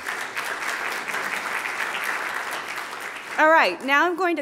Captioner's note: audience applauding